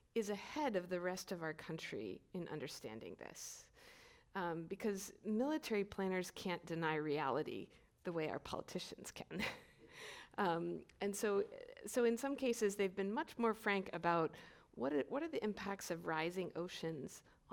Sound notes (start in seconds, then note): 10.3 chuckles